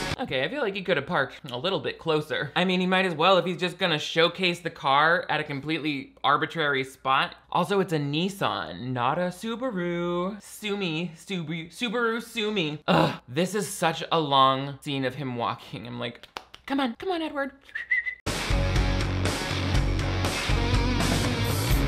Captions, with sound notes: - Okay, I feel like he could've parked a little bit closer. I mean, he might as well if he's just gonna showcase the car at a completely arbitrary spot. Also, it's a Nissan, not a Subaru. Sue me. Subaru, sue me. Ugh, this is such a long scene of him walking. I'm like, "Come on, come on, Edward." (whistles) (upbeat rock music)